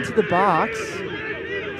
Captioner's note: shouting